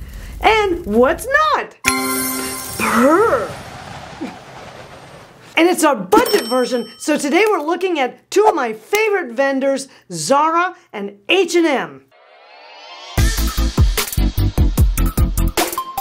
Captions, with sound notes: and what's not. (music chimes) Brr. (wind howls) And it's our budget version, so today we're looking at two of my favorite vendors, Zara and H&M. (lively pop music)